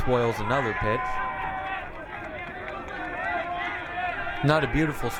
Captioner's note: crowd cheering